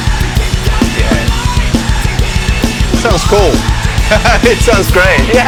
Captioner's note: laughs